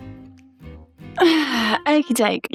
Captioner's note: upbeat music; elderly noise